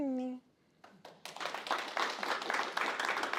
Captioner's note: applause